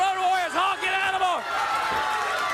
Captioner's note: crowd cheering